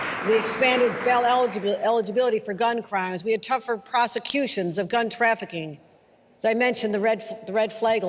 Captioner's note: applause